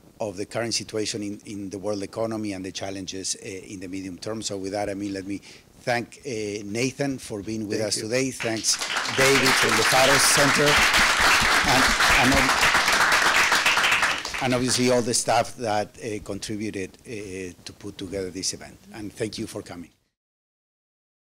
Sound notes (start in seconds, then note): 11.0 audience applauds